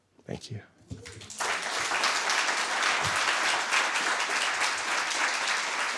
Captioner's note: audience applauding